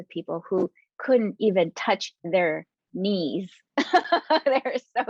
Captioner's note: laughing